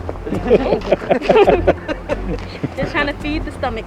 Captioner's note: laughter